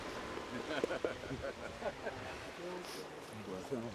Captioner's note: laughter